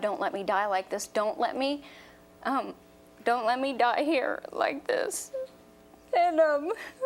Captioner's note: voice breaks